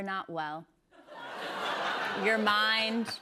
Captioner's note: laughter